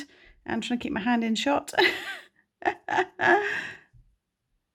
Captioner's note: laughs